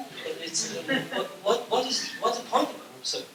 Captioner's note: laughter